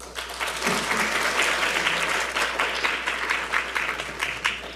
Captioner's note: audience applauding